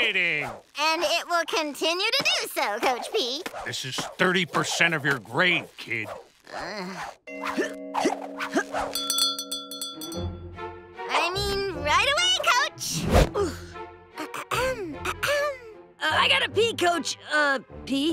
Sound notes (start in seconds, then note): 6.5 groaning; 6.5 grunting; 7.3 bell ringing; 14.2 clearing throat